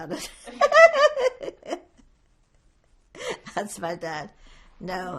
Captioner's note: laughing